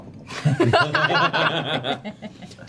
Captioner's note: laughter